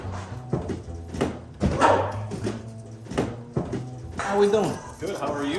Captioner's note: footsteps treading